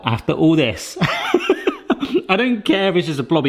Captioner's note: laughing